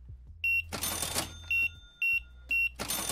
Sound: beeping

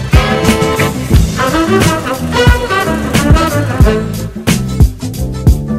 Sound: airplane engine revs

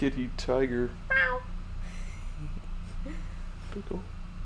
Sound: meows

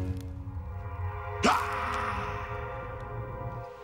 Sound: growl

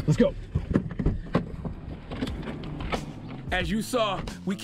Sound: door opening

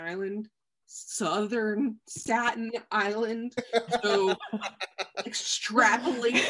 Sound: laughing

